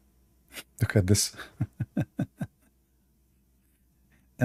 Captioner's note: Ketawa